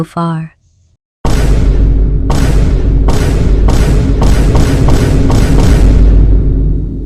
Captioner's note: Vine boom as each screenshot appears